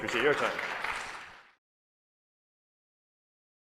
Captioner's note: applause